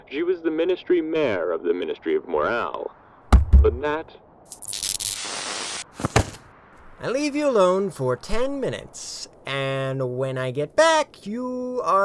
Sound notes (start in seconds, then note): 3.3 thud, thud; 5.9 static, body falling over